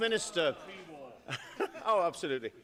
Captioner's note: laughter